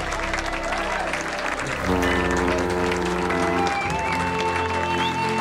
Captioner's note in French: klaxon du navire